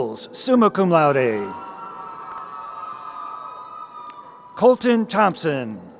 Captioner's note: crowd cheering